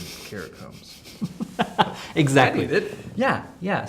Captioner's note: laughter